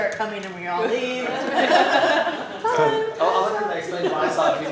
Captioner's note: laughter